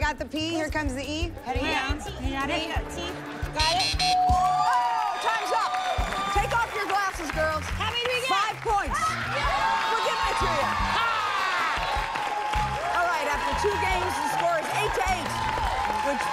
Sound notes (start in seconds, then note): 3.6 buzzer sounds and bell dings; 11.6 cheers and applause